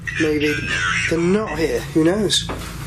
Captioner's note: Ovilus speaking